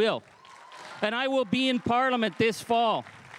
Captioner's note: crowd cheering and applauding